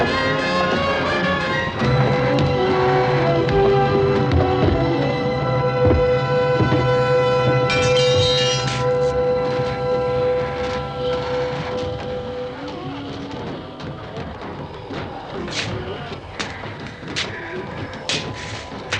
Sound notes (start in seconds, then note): 7.3 metal clanging; 12.8 ghouls groaning